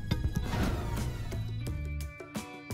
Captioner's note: phaser sound